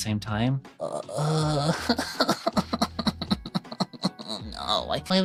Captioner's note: crying